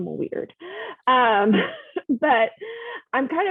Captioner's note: laughs